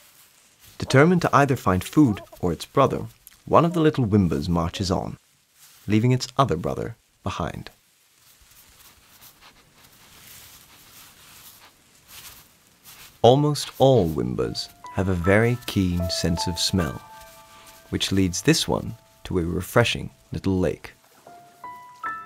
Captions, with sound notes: Determined to either find food or it's brother, one of the little WIMBAs marches on... leaving it's other brother behind. [WIMBA sniffs] Almost all WIMBAs have a very keen sense of smell, which leads this one to a refreshing little lake.